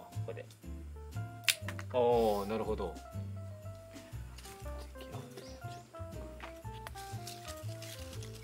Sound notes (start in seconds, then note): 4.8 laughs